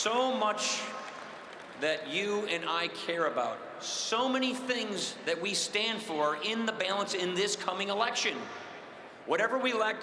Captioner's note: cheering and applause